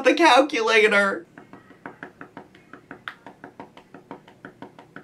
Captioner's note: keys tapping